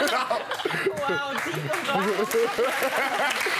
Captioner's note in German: Gelächter, Applaus